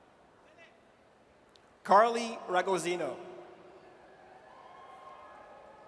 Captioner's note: audience cheers